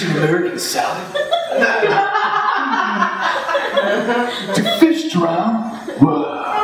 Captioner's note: laughter